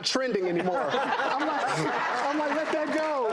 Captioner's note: laughing